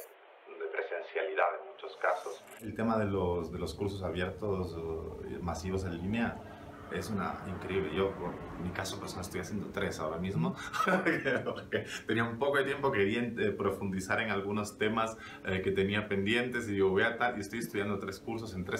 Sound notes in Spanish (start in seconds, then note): 10.6 risas